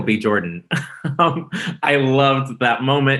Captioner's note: laughs